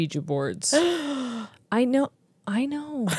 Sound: gasps

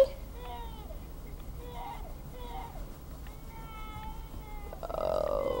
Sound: crying

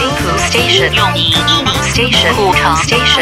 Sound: Mandarin

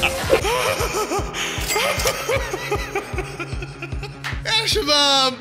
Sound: laughter; laughter x2

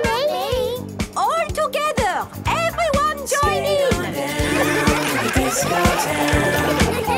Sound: laughter

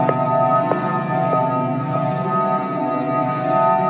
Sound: the footsteps are getting close to my room…!

